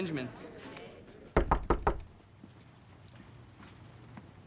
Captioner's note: knocking on door